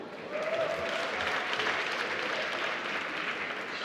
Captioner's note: applause